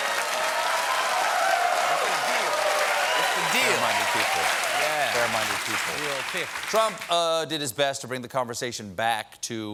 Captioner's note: cheers and applause